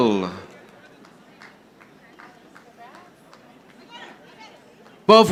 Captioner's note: audience applauding